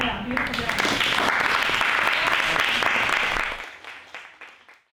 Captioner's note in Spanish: aplausos